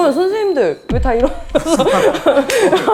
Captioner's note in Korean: ㅋㅋㅋㅋㅋㅋㅋㅋㅋㅋ